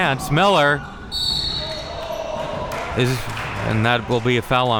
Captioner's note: whistle blowing